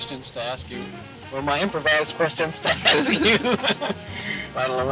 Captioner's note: laughs